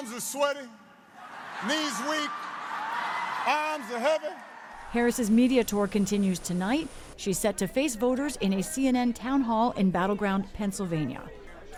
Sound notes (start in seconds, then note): 4.9 cheering